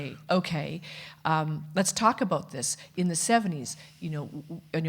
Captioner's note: none